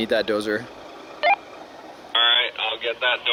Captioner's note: radio beep